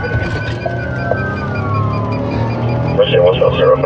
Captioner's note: sirirenens wawaililing